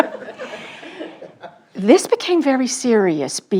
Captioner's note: audience laughing